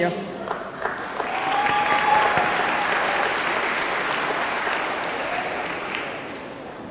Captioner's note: audience clapping; audience cheering